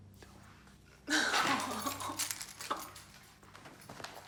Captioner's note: Molly sobbing